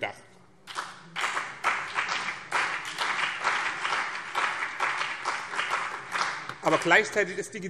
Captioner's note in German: Beifall BÜNDNIS 90/DIE GRÜNEN und CDU